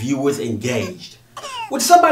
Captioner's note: sound of baby crying